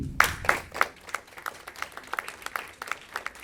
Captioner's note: applause